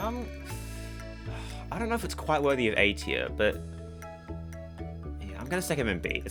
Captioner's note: sigh